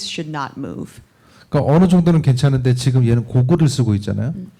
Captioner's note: speaking korean